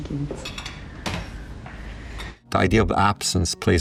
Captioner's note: dishes clinking